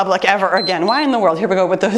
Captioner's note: timer beeps